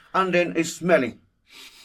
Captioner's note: sniffs